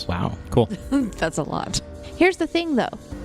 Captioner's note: laughs